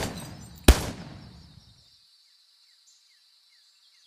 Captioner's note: gun firing